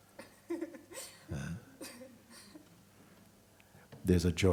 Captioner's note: questioner laughs